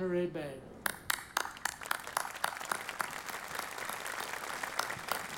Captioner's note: audience applauding